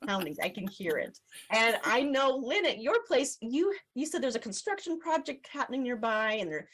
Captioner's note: laughs